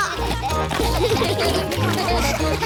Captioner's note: all giggling; all laughing